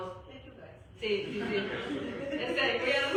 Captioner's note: laughter